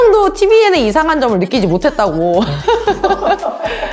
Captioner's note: laugh